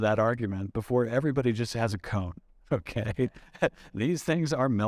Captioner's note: chuckling